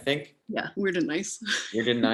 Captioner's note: laughs